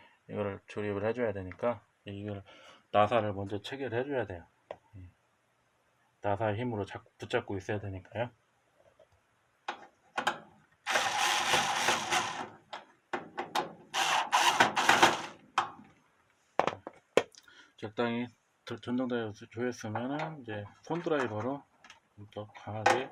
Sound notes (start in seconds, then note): 11.0 electric screwdriver sound